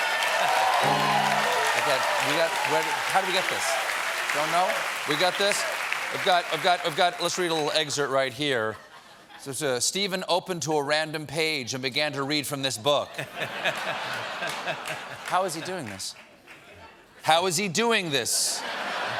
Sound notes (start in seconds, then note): 0.0 cheers and applause; 0.8 piano riff